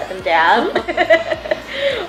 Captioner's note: laughs